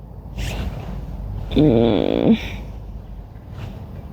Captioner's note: anxious groan